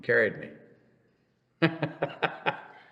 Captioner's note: laughs